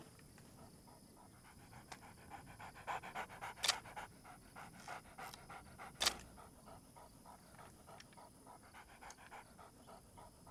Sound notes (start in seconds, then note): 3.8 camera shutter clicks